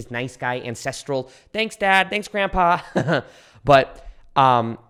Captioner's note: laughs